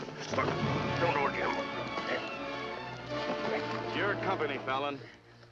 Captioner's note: struggling